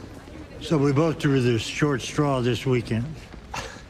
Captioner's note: chuckles